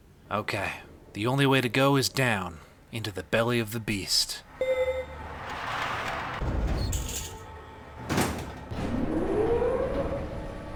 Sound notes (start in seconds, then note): 4.6 elevator chimes; 5.2 door slams shut; 5.2 ramp slides and slams shut; 8.8 high-pitched whir